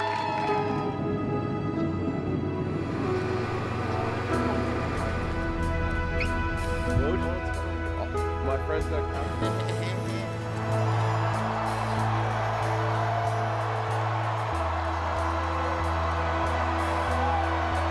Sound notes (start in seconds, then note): 0.0 clapping; 0.0 crowd cheering intensifies; 2.0 plane engine roars; 9.2 laughs; 10.2 crowd cheering